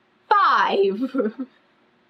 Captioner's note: laughs